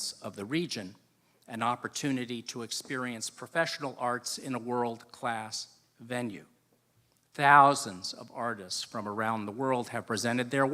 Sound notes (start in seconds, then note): none